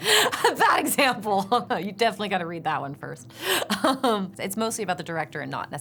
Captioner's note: laughs